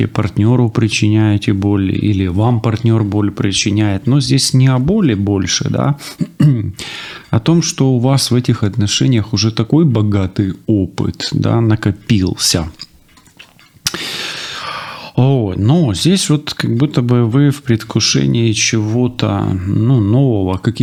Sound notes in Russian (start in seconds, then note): 6.1 откашливается